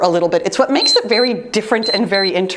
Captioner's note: timers beeps